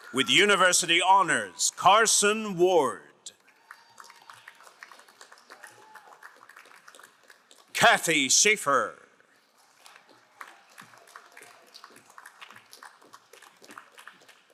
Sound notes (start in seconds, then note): 3.4 crowd applauding; 9.5 crowd applauding